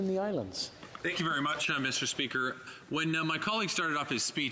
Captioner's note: speaking French